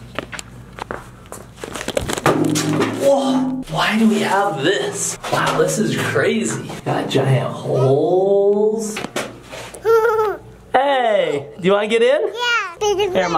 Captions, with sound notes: (metal thuds) Whoa, why do we have this? Wow, this is crazy. Got giant holes. (laughs) Hey, do you want to get in?